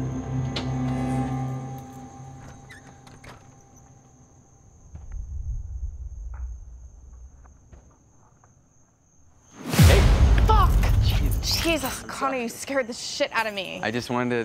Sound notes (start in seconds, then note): 0.0 suspenseful Music; 3.3 gate squeaks open